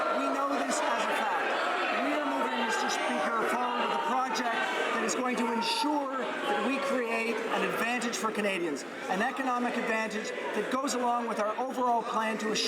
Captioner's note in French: applaudissements